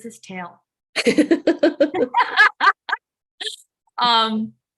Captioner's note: laughter